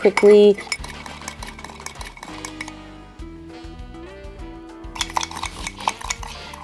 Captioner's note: gentle bright music; spoon clacking